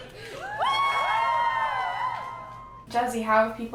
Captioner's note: audience cheering